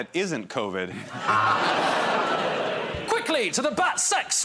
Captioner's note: laughter